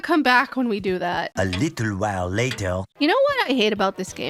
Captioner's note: male narrator voice with a french accent